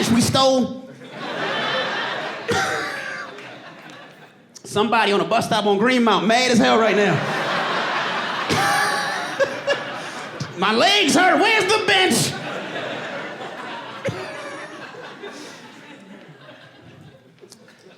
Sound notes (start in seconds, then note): 0.1 laughs; 7.2 laughs; 12.3 laughs